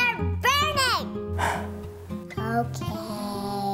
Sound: sigh

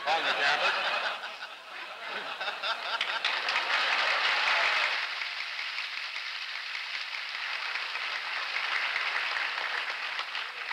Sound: laughter, applause

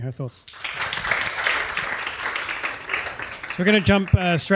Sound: audience applauds

